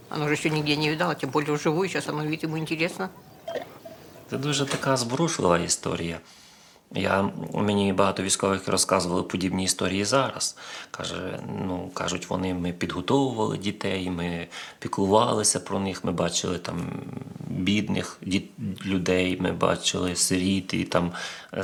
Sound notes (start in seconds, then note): 2.3 ear flicking